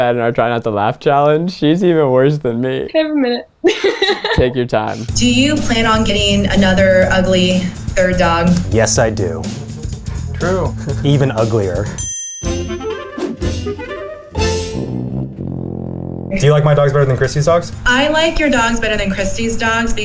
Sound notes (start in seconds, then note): 3.6 woman laughs; 11.9 bell rings; 12.4 upbeat music